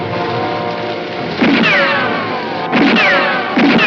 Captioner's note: gunshots